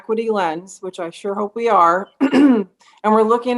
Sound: clears throat

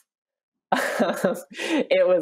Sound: Patti laughs

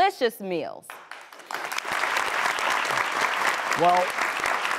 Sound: applauding

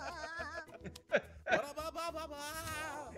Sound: laugh

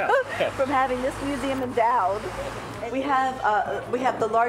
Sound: laughs

